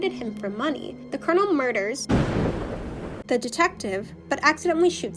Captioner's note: thunder